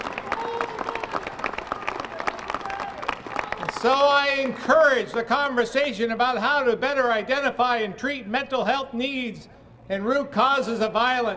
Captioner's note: applause